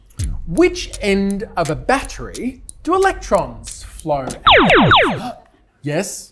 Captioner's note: laser noises